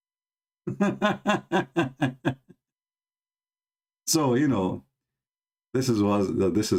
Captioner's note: Ketawa